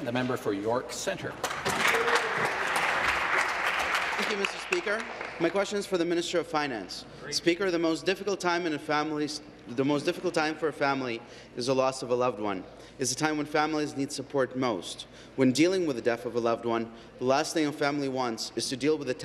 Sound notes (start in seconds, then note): 0.0 applause; 4.8 applause